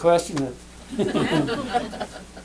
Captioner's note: laughter